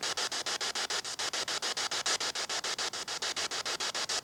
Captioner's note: static hissing